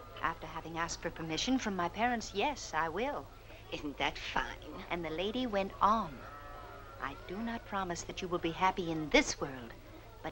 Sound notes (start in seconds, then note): none